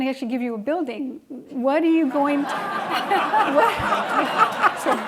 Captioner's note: laughing